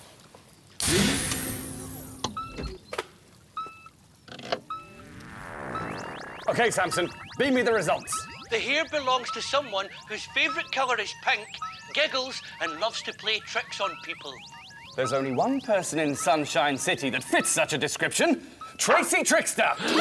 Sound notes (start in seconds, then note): 2.3 beeping!